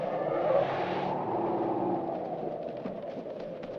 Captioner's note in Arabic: أنين الفيل; تهب الرياح